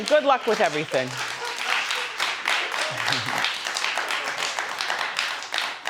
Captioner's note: audience applause